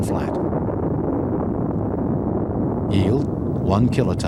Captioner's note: explosion rumbling